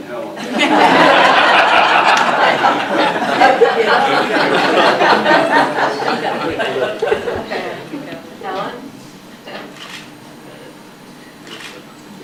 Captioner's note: audience laughing